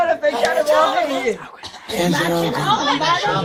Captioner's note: voice cracking; voice cracking